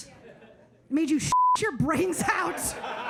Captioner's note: audience laughing; beep; audience laughing